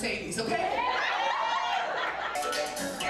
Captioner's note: audience laughing; dance music